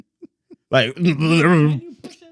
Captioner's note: speaking In Foreign Language